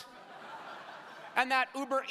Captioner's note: crowd laughing